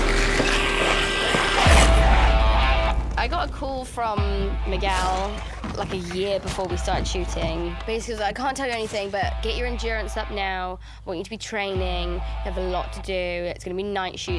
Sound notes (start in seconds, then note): 0.0 snarling